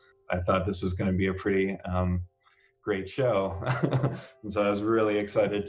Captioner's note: laughs